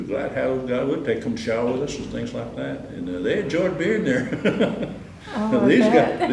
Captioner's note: laughter